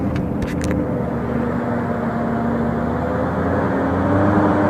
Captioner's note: engine noise